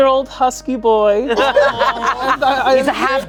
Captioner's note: everyone laughing